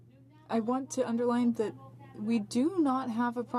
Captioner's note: speaking French